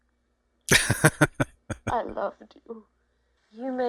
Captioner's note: laughing